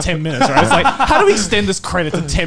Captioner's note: laughing